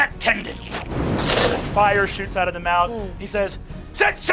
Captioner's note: fire roaring